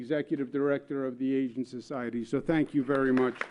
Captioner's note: applause